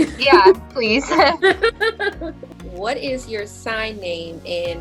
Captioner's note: laughing